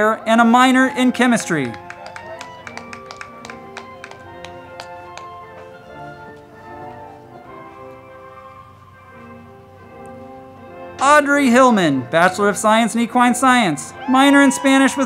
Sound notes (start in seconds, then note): 0.8 crowd clapping; 2.1 band music